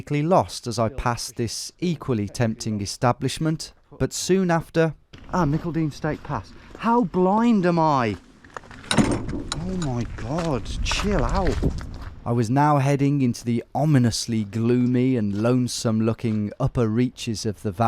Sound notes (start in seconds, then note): none